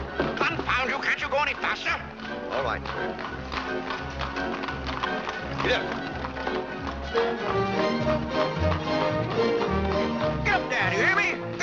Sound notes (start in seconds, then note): 0.0 dramatic music; 3.6 hooves trotting